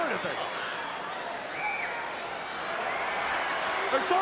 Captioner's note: crowd yelling